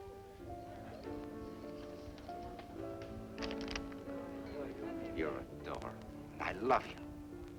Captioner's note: none